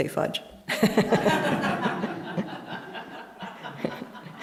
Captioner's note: laughter